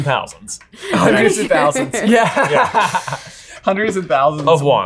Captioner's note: laughs